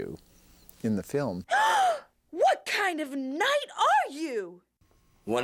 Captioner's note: gasping